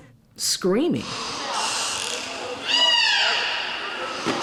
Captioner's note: screaming